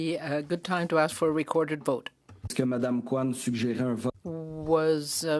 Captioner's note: speaking French